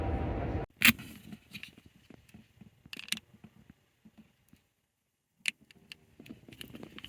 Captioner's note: car